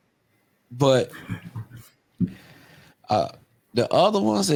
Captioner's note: laughs